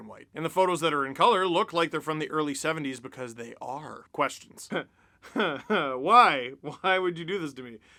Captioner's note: laugh